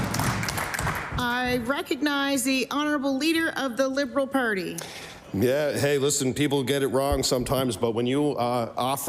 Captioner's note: applause